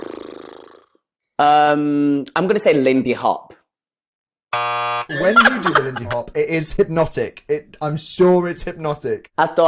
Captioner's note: buzzer sounds